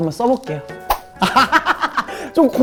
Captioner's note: laughing